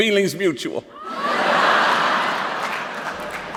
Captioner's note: laughter